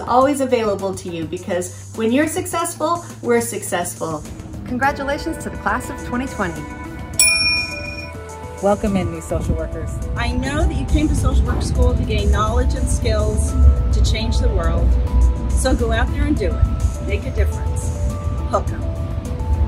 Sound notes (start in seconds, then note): 7.2 bell rings